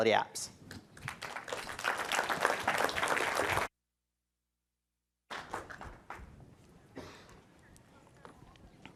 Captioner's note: applause